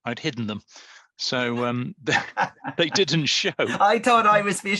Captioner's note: laughs